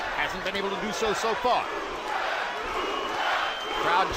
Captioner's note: crowd chanting "Lucas! Lucas!"